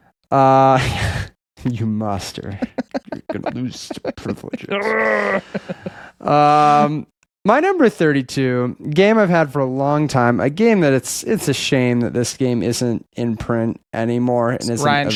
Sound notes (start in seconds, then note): 2.4 laughing; 4.5 groaning